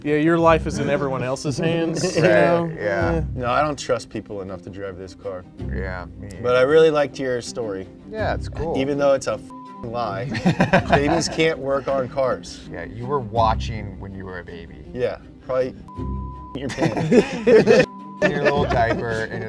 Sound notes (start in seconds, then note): 9.5 beep; 10.3 laughing; 15.9 beep; 16.7 laughing; 17.9 beep